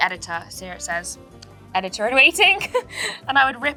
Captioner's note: giggles